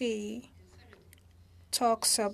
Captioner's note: speaking French